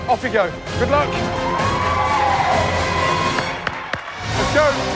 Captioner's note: cheers and applause